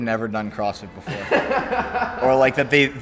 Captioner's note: laughing